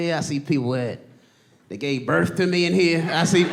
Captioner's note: audience laughing; laughs